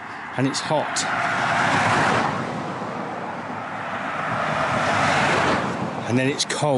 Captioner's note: passing Traffic